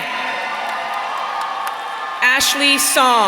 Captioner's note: audience cheering